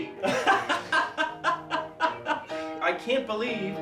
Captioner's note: laughing